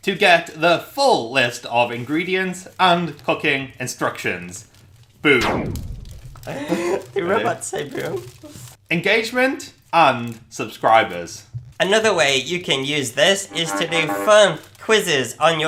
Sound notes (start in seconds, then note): 6.4 laughs